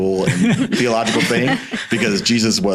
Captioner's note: laughing